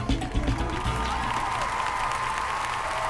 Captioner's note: applause